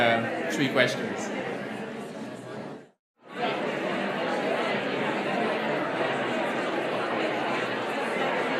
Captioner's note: audience murmurs